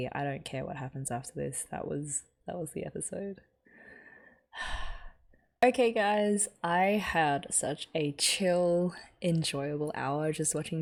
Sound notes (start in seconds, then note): 4.6 sighs